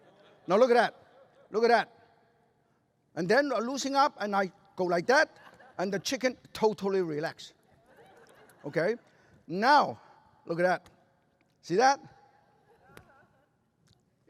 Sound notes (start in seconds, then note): 7.6 laughter